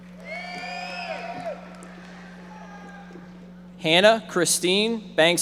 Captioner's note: audience members shouting